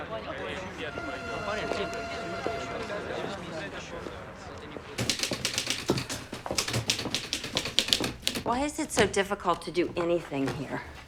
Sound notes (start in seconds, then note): 0.0 speaking foreign language; 0.1 horn blowing; 5.0 typewriter clicking